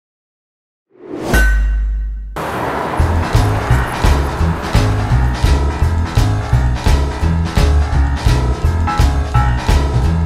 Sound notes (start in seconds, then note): 0.0 metal clanging; 2.4 upbeat piano music